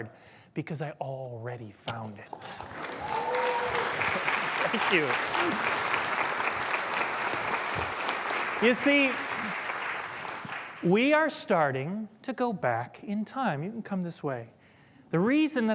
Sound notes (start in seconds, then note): 4.6 applause